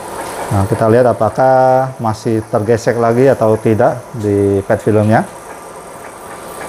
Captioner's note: printer machine noise